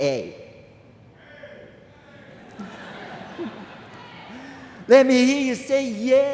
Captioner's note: scattered shouts and laughter from crowd